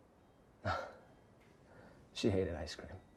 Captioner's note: Louis chuckles